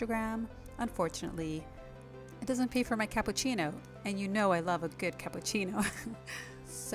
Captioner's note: giggle